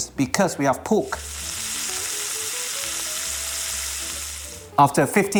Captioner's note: sizzling sound